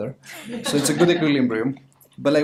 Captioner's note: audience laughter